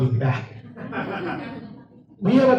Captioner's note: audience laughs